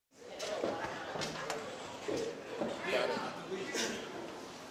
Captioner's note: fans chattering